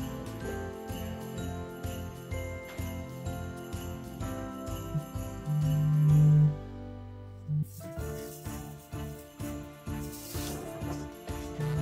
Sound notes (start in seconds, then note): 4.3 phone ring